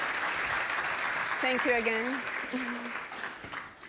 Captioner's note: applause; with Cuban accent